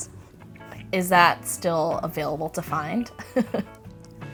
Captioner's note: chuckles